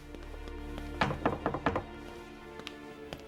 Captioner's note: knocking; dramatic music